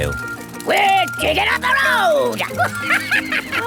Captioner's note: chuckles